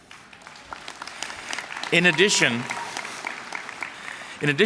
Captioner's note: applause